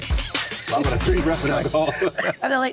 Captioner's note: chatter